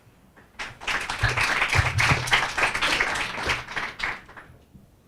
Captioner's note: audience applauding